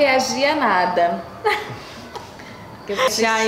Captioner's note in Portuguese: risos